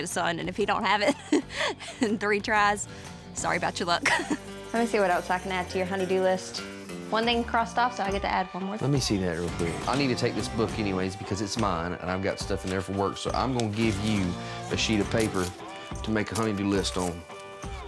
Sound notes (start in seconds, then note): 4.0 laughing